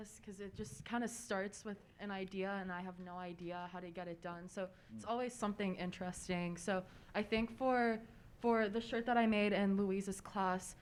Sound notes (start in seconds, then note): none